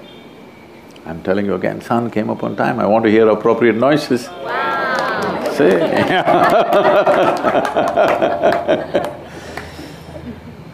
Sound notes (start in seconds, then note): 4.6 applause; 4.6 掌聲; 5.6 laughter; 5.6 笑聲